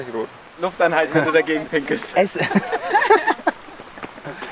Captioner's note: laughter